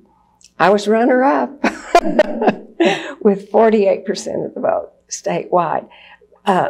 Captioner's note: laughs